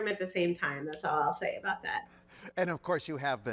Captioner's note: chuckles